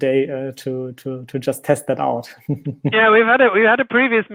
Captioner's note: laughing